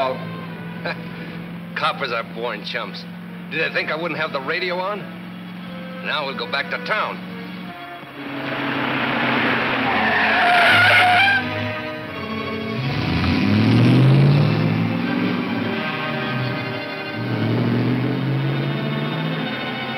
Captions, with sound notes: - Coppers are born chumps. Did they think I wouldn't have the radio on? Now we'll go back to town. (tires squealing) (engine roars)